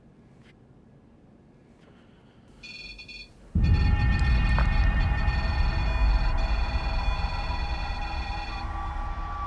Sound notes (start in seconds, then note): 2.6 beeping; 5.2 ominous music